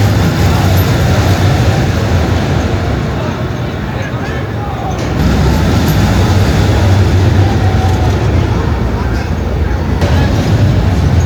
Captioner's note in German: schreien